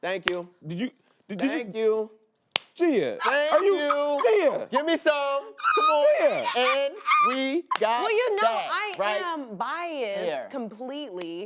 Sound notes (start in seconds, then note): 3.2 laughing